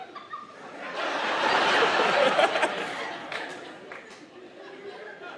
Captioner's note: audience laughing